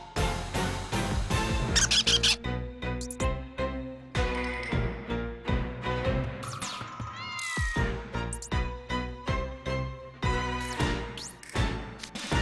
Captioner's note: squeaks